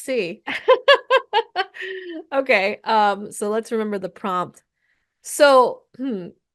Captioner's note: laughs